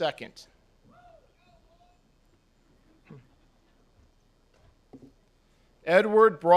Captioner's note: chuckles